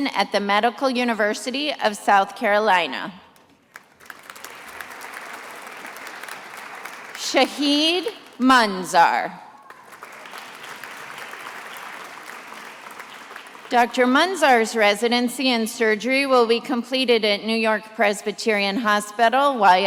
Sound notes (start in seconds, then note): 3.6 attendees applauding; 9.6 attendees applauding